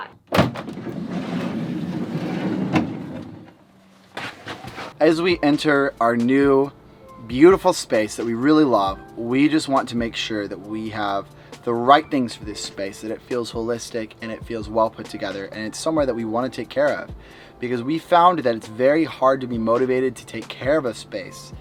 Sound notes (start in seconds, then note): 0.0 door opens; 4.1 basket hits the floor